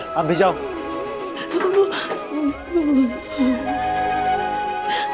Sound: crying

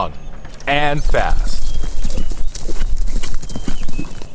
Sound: horse galloping

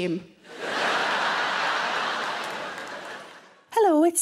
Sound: audience laughing

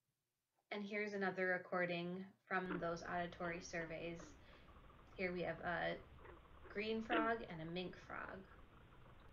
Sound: two species of frog calls

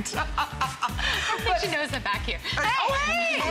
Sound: laughter

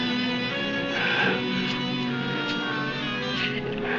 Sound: grunting

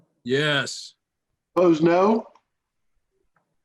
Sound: silence

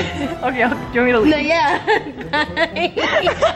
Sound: laughing

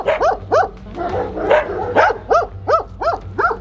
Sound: dogs barking

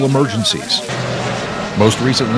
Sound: plane engine roaring

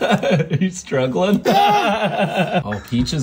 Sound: chuckles

